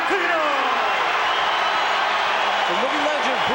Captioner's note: crowd cheering